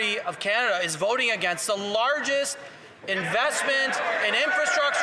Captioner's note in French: voix de l'interprète